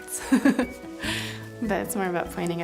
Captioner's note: laughs